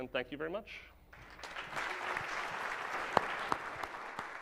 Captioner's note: audience claps